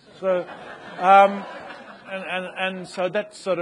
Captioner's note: audience laughing